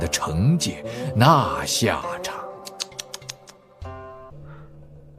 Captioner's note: tsk tsk